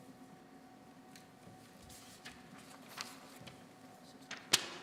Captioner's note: paper rustling